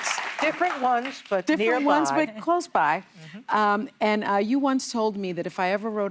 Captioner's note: applause